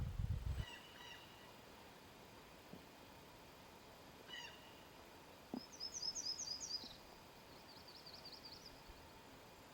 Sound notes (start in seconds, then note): 0.6 bluejay call